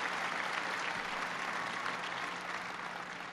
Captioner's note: applause